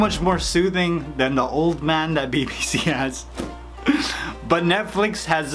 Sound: laughs

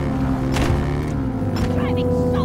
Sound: crash

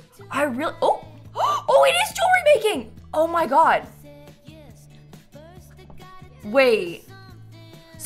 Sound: gasps

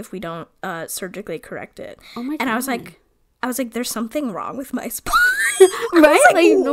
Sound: laughs

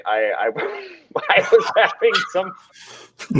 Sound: laughs

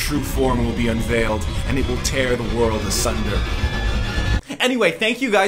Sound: discordant, high-pitched tones; tones continue; normal voice

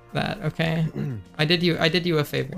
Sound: throat clear

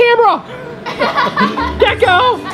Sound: laughs

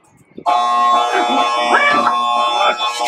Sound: alarm goes off

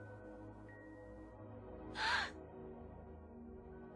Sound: gasp

